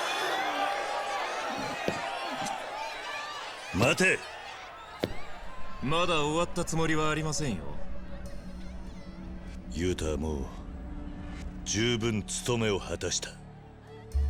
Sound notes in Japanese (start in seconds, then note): 0.8 大歓声